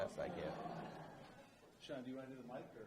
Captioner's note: laughing